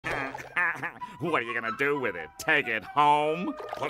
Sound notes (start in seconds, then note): 0.1 chuckles